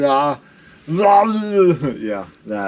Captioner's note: mumbling